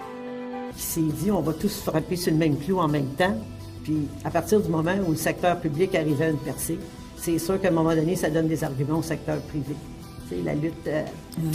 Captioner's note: french Speaking